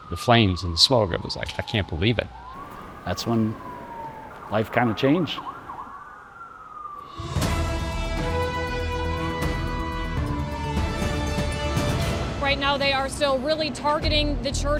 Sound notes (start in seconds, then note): 7.0 sirens wailing continues; 9.9 intro music